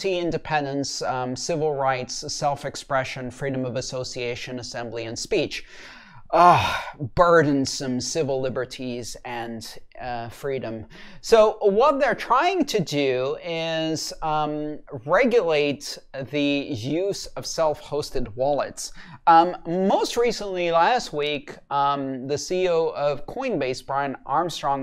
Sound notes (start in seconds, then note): 5.7 exasperated gasp